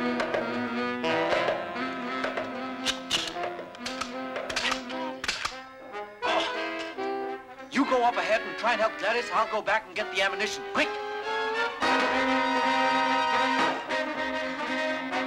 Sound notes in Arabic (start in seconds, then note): 2.8 صوت نقر البندقية; 10.9 موسيقى مشوقة